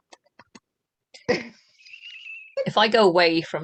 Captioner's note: laughter